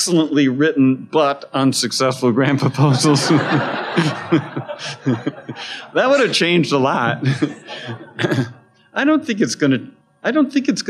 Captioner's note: laughter